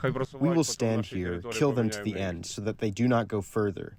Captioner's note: through translator